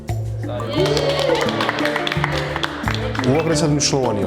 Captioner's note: cheering